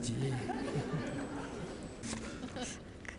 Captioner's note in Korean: 청중 웃음